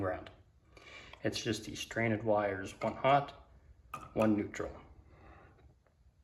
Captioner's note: soft taps